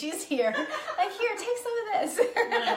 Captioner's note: laughing